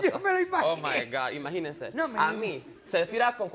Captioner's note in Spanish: Riendo